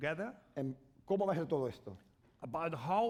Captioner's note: speaking spanish